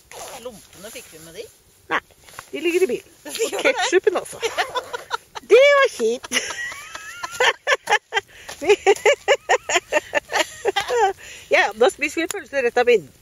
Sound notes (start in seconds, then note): 7.8 laughter